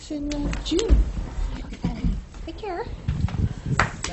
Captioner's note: applause